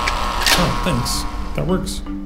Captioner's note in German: Türöffner summt